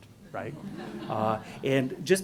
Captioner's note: laughing